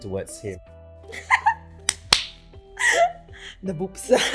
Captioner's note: laughs